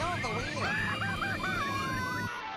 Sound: screaming

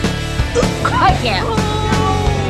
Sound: gags

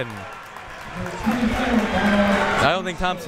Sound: crowd members clapping

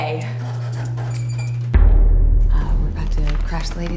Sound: elevator hums

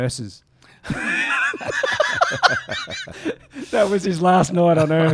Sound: laughing

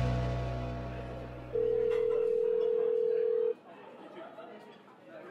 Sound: phone rings

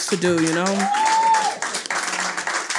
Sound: audience cheers and applauds

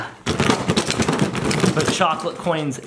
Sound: balloon rattles

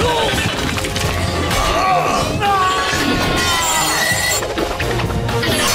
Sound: grunting; grunting

